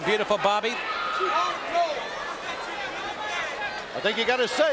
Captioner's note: audience cheering